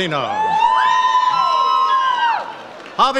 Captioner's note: audience cheers